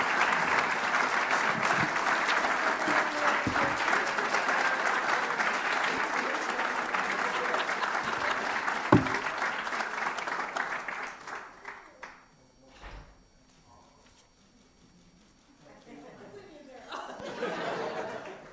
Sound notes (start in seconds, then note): 7.8 cheers and applause